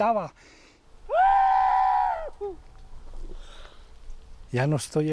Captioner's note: screams